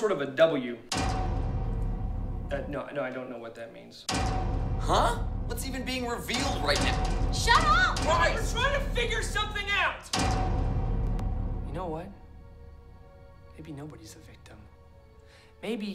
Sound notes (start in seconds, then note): 0.9 clang; 4.1 clang; 7.0 clanging; 10.1 clang